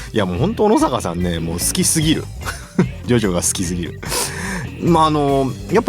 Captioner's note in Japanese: 笑い